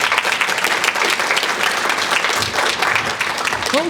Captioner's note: applause